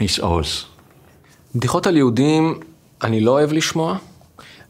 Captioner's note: Hebrew